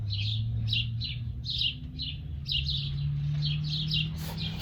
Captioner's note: birds chirping